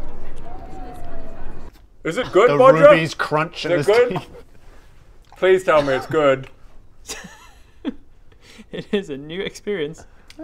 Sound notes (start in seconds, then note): 7.0 laughs